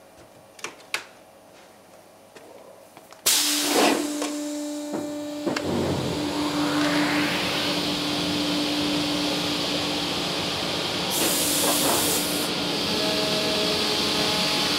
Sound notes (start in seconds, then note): 3.0 hissing, buzzing; 6.9 hissing